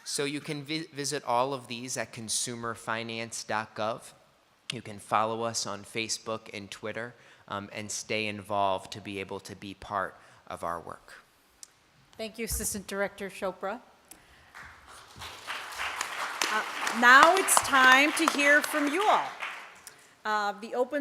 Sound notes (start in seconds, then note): 14.4 applause